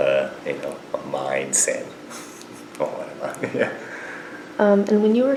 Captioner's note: laughs